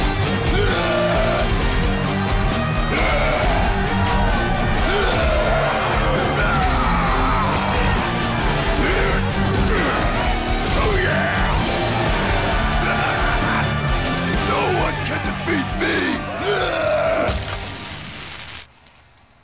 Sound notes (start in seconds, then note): 0.1 growls; 11.4 cheering